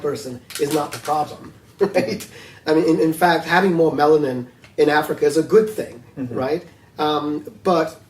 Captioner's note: laughs